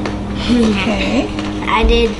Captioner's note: giggle